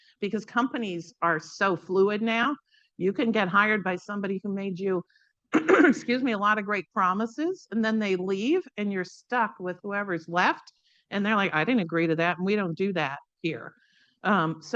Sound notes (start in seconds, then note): 5.5 coughs